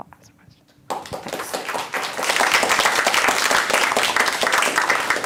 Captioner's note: applause